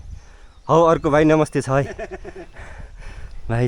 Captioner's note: laughter